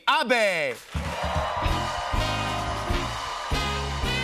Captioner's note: cheers and applause